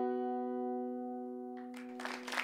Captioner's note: applause